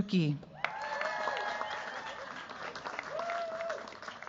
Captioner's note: cheers, applause